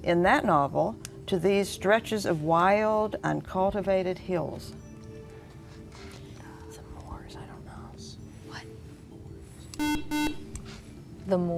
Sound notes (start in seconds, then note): 4.8 whispering; 9.8 buzzer